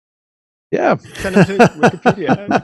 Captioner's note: laughing